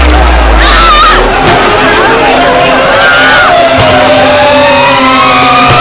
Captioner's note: screams